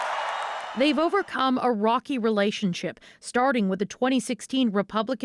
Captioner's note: cheers and Applause